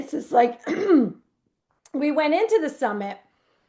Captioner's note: clears throat